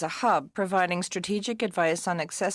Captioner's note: speaking French